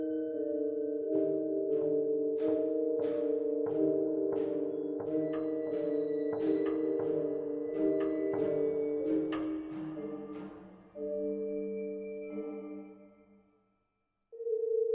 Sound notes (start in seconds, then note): none